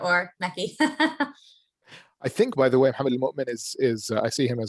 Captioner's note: laugh